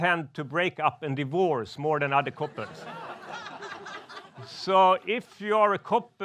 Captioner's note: crowd laughs